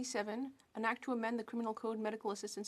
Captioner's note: speaking French